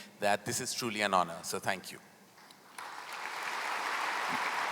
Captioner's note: applause